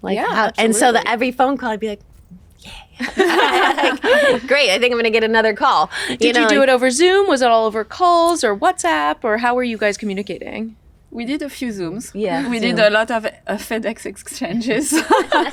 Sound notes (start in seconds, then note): 3.0 all chuckle; 15.0 all laugh